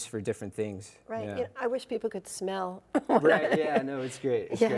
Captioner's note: laughing